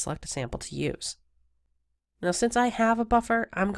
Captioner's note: silence